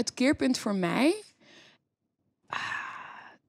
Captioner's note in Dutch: diepe zucht